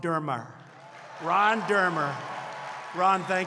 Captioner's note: applause